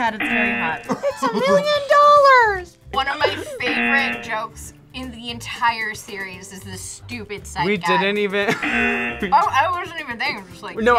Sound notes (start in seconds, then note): 0.2 buzzer; 0.8 laughs; 8.5 laughs